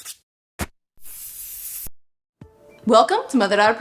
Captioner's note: sandpaper scrapes; aerosol spritzes